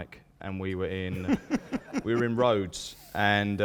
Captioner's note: laughs